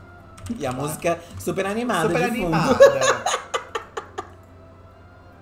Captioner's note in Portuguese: gargalha